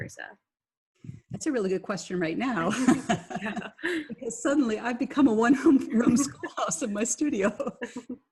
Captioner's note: laughing